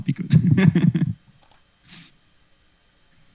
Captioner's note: laughs